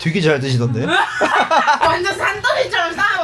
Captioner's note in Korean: 웃음